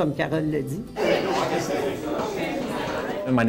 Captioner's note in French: des gens parlent